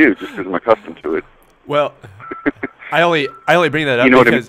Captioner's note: laughs